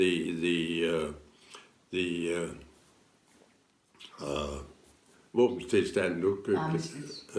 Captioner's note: foreign language